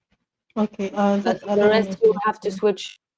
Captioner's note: chatter